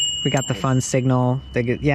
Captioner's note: rings